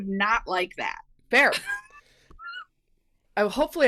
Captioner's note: laughing